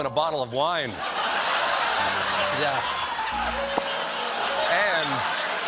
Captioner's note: laughter; piano riff